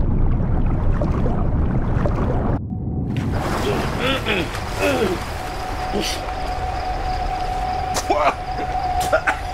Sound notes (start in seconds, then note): 4.7 Papi grunts and coughs